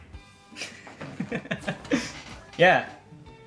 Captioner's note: laughs